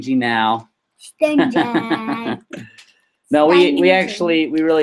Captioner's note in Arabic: يضحك